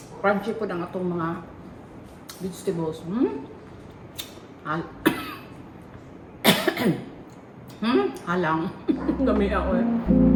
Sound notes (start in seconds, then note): 4.7 cough